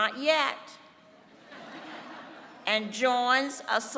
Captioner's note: laughter